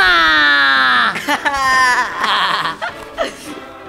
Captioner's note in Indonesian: Hoho dan Tokek tertawa riang